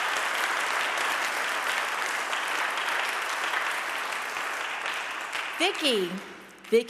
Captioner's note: audience applauding